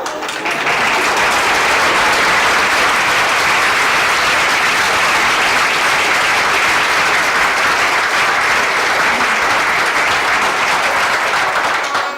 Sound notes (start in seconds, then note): 0.1 applause